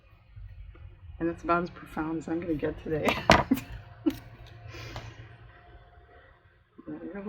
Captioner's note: laughs